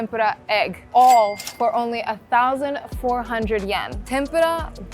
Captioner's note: chime ringing